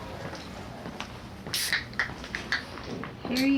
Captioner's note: pop-top Snaps